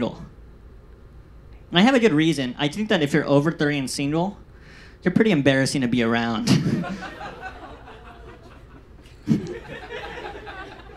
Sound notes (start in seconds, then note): 6.6 audience laughs